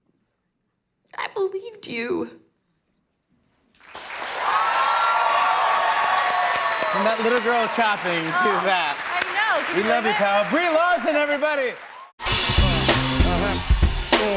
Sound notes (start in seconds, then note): 3.8 cheers and applause